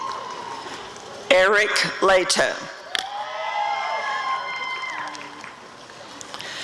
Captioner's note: applause and cheering